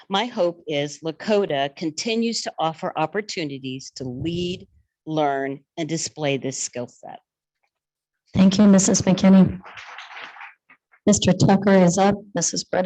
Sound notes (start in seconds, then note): 10.0 attendees clapping